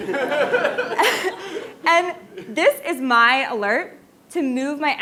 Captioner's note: laugh